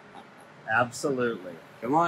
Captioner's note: laughing